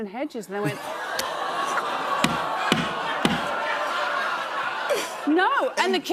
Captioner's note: audience gasps